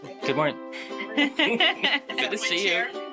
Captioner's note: laughing